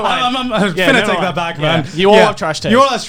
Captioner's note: both mumbling